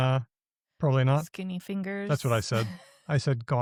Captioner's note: laughs